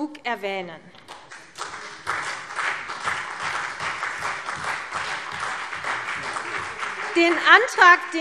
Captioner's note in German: Beifall CDU, BÜNDNIS 90/DIE GRÜNEN, vereinzelt SPD und Freie Demokraten